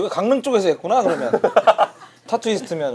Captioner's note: laughing